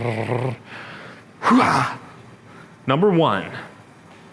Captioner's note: grunts